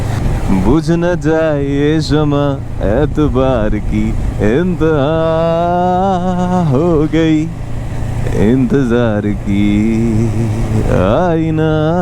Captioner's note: humming